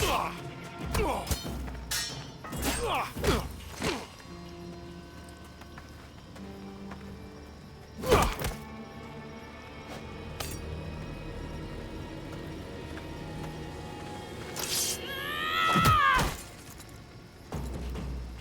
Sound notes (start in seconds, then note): 14.7 scream